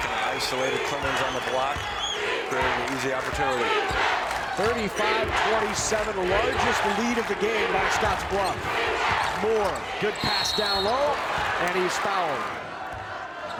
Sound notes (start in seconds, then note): 4.7 crowd chanting